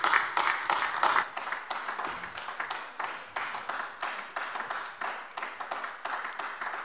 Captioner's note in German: Beifall AfD